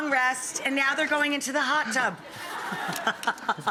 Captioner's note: laughs